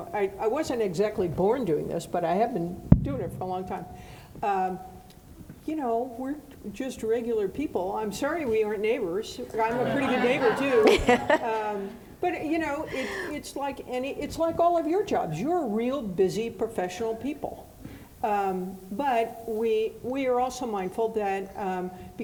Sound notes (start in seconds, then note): 9.5 audience laughing